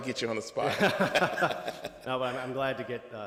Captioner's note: both laugh